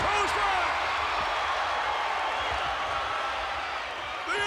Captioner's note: audience cheers